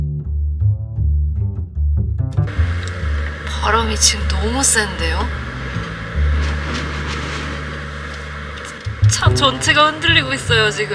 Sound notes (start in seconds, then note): 6.6 swishing sound